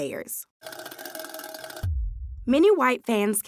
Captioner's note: wire scratching